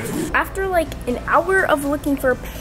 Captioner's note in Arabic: صفير من الهواء